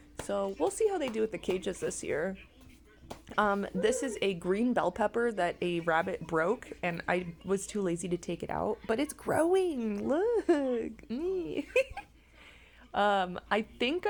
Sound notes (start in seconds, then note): 6.2 giggle